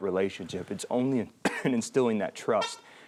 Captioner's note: coughs